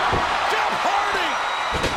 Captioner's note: audience cheering